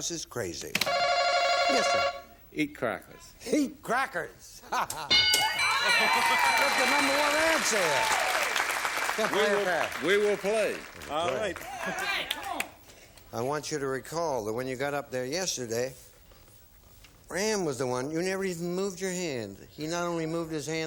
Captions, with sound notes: that drives their spouses crazy. (bell) Yes, sir? -Eat crackers. -Eat crackers. (bell) (applause) That's the number one answer, there! Play or pass? -We will play. -I want you to recall that when you got up there yesterday, Fran was the one -- you never even moved your hand.